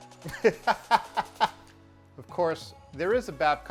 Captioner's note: laughs